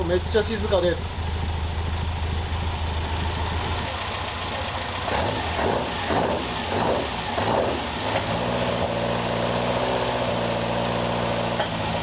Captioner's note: engine noise